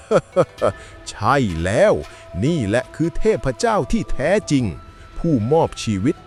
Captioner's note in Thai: เสียงหัวเราะ